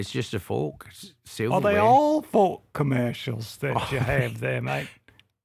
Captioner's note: chuckles